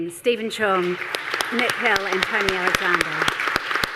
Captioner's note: audience applause